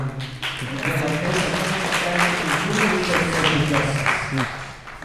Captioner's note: applause